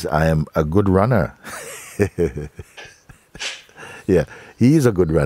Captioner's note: lacht